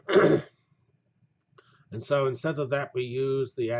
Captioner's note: cough